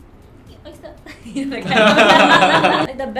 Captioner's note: laughs